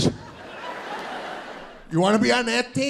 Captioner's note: audience laughing